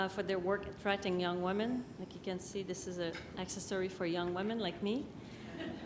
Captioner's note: laughter